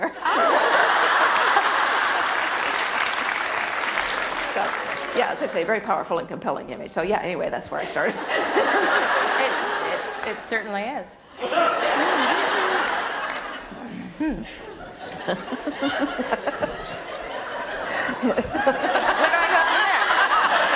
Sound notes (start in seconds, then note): 0.0 laughter and applause; 8.0 laughter; 11.4 audience laughter